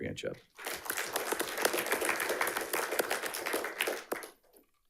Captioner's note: audience applauding